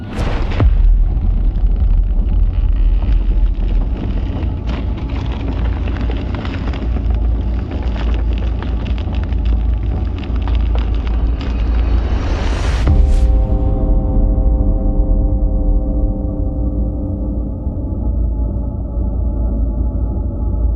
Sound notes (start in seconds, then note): 0.0 booming; 0.3 snapping and crackling; 12.5 electricity buzzing; 12.5 high-pitched blast